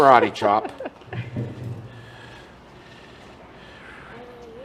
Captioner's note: laughs